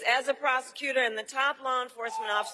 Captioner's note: cheering and applause